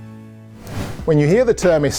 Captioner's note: air whooshing